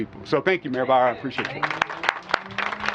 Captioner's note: applause